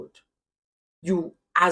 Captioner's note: paause